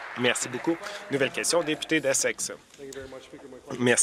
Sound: applause

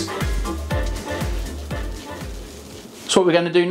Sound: seame seeds falling

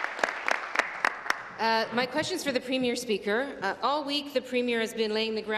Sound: applause

